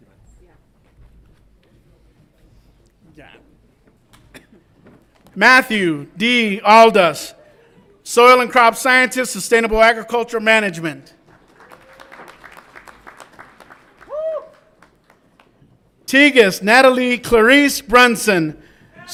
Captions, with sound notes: Mathew D. Aldus, Soil and Crop Sciences, Sustainable Agricultural Management. (audience applauds and cheers) Tigist Natalie Clarice Brunson,